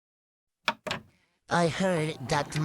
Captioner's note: VHS Tape in VCR